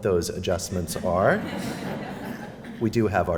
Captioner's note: laughter